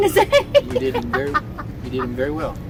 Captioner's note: laughs